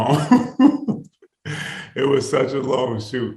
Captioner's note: Yahya laughing